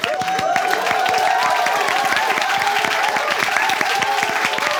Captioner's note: audience cheers